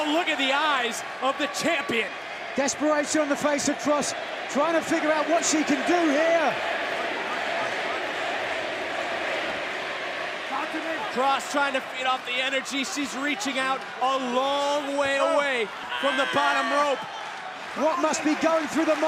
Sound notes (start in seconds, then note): 10.0 crowd cheering